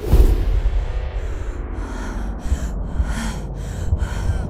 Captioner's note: heavy breathing